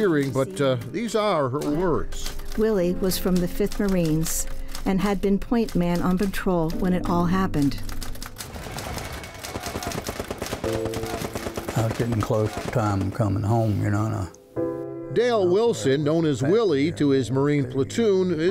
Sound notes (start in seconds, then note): 8.3 gunshots firing